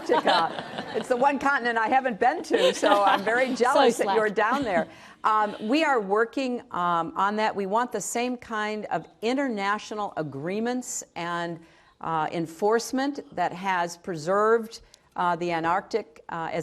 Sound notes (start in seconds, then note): 5.3 laughter